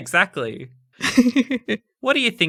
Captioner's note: laughing